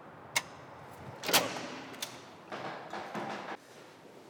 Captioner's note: door opens; door lock clicks